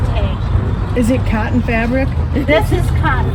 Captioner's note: laughter